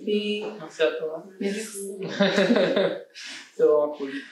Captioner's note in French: rires